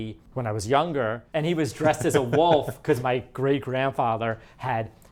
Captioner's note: laughs